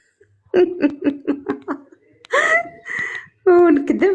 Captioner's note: laughs